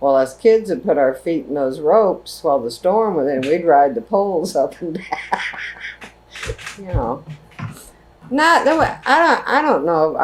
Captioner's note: laughs